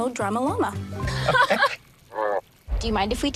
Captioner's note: laughing